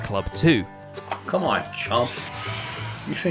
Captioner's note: phantoms screeching